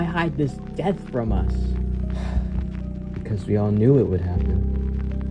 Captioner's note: sighs